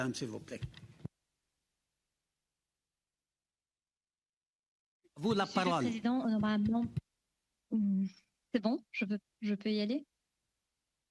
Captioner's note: speaking French